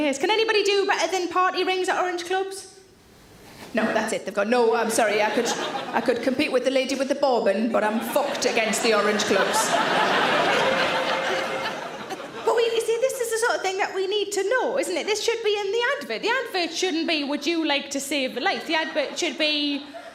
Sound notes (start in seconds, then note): 9.8 audience laughing